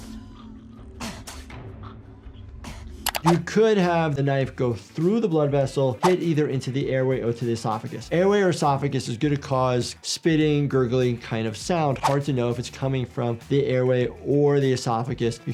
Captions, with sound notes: (Joel grunting) You could have the knife go through the blood vessel, hit either into the airway or to the esophagus. Airway or esophagus is gonna cause spitting, gurgling kind of sound. Hard to know if it's coming from the airway or the esophagus